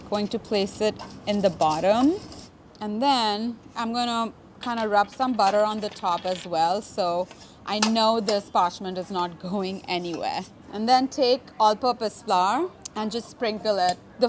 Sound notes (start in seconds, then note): none